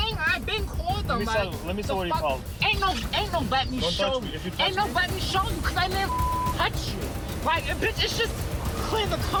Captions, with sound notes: >>Let me see where you called. >>Ain't nobody to show you- >>Don't touch me. If you touch me- >>Ain't nobody to show you, 'cause I never (beep) touch you. Why you, bitch